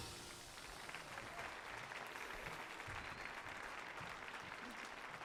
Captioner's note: audience applauding